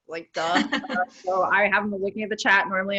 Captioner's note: laughs